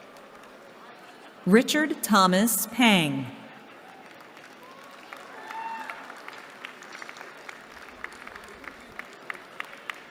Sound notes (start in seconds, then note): 3.6 applause